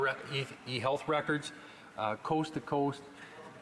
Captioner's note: none